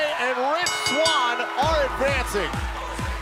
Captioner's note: bell ringing